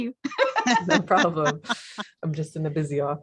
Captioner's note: chuckle